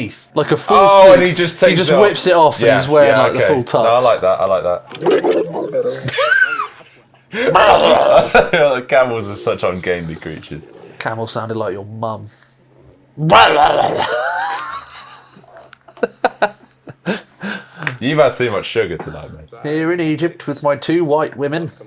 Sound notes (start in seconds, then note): 7.5 camel mimicry; 13.2 more camel noises